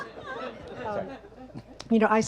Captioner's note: audience laughs